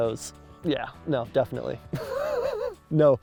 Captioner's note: laughs